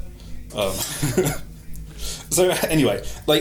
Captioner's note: laugh